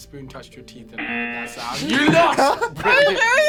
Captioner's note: klaxon blares; laughs